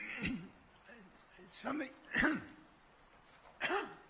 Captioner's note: coughing